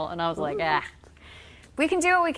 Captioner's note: yelps